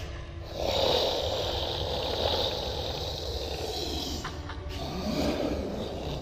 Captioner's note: creature snarling; suspenseful music